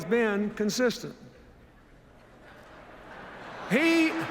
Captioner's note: laughter